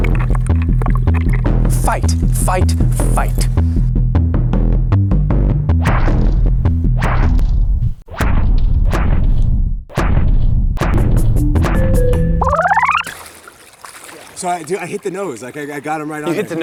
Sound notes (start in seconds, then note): 5.8 punches land; 11.2 video game music